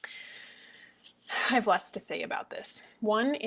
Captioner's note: exhales